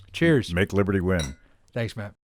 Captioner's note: glasses clink